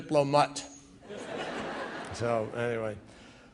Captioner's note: laughter